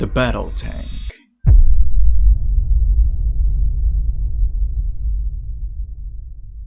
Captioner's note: reverse drum; bass rumble